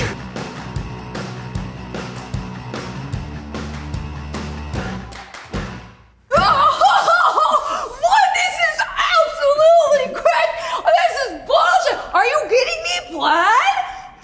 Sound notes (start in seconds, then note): 0.0 upbeat music; 6.4 laughs